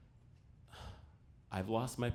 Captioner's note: exhales